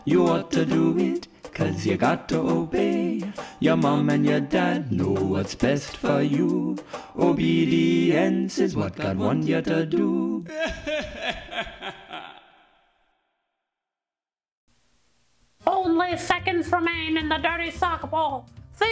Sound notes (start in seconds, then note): 10.4 laughing